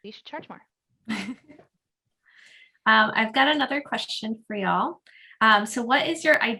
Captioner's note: laughs